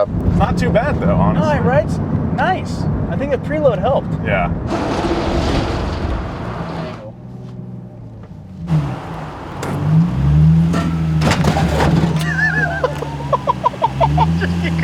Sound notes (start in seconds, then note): 10.4 scraping; 12.2 laughter